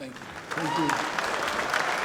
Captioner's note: audience clapping